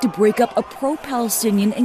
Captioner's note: screaming